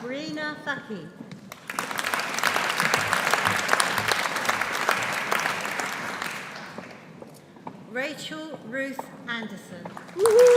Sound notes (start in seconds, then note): 1.5 audience applauding; 10.0 audience applauding; 10.2 audience cheering